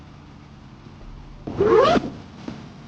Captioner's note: bag zips; thrilling music booms dramatically